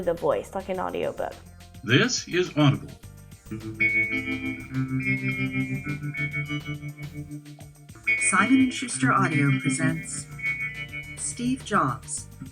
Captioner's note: audiobook playing